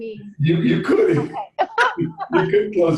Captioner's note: laughs